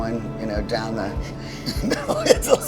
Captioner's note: laughs